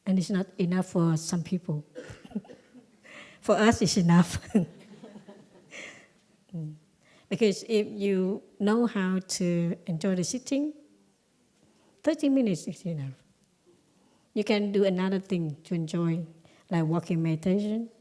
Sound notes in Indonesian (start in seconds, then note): 2.4 Suara tertawa; 5.8 Suara tertawa